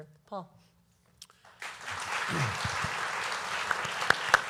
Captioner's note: applause